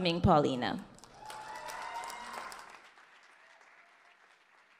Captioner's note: audience cheers and applause